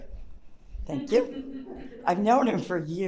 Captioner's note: audience member chuckles